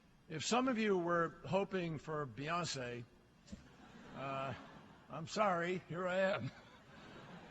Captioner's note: laughter